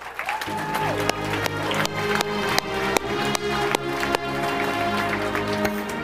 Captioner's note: audience applauding; bright orchestral music